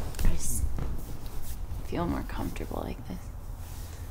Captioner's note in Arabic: تنهدات